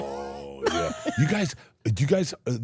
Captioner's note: Elyse and Steph laughing